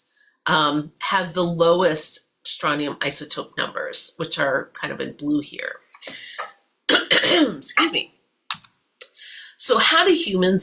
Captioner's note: coughing